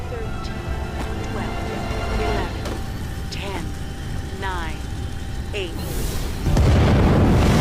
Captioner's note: sounds of ship powering up; whoooosh!